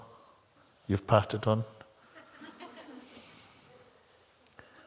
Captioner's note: laughter; silence